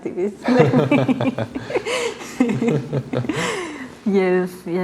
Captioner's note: laughter